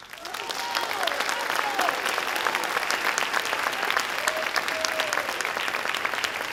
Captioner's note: audience applauds